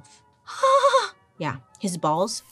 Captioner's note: gasps